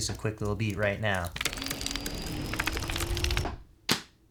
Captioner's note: clicking; percussive beat